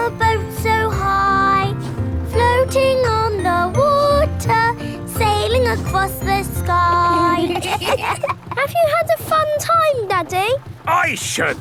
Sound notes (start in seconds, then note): 7.1 kids giggling